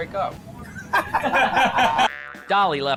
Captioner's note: laughing